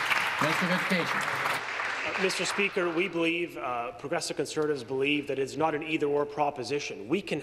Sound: applause

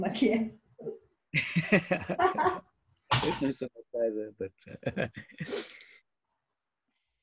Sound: both laughing

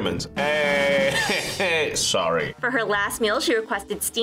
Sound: laughs

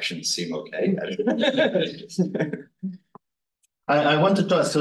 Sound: laughing

